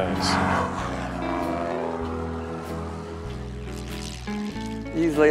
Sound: airplane engine sound

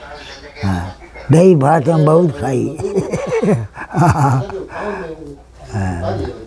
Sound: laughs

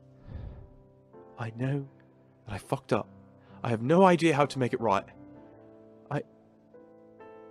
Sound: Sirius exhales

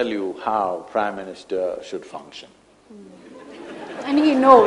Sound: laughter

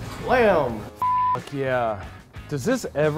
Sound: beep

